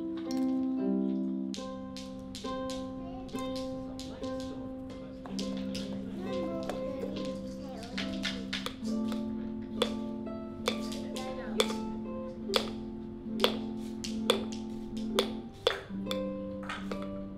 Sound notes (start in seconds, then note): 9.7 tapping